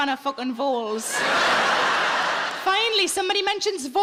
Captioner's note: audience laughs